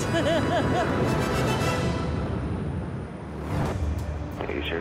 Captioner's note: laughing